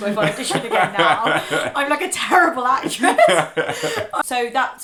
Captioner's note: laughing